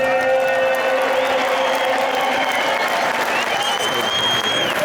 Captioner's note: audience cheering and clapping